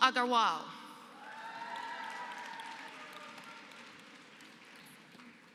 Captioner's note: applause